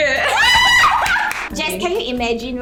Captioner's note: moar Screems